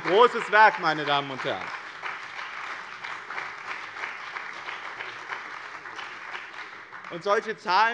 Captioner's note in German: Beifall bei dem BÜNDNIS 90/DIE GRÜNEN und der CDU